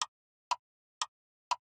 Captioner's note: clock Ticking